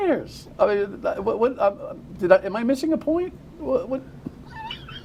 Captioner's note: laughter